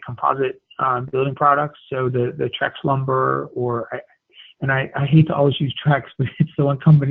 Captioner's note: laugh